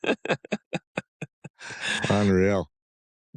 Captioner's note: laughter